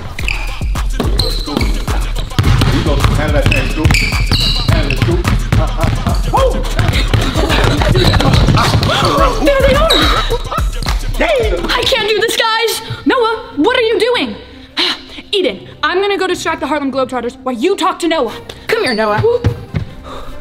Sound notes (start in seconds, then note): 0.1 upbeat music; 1.4 balls bouncing; 1.4 shoes squeaking; 7.1 group panting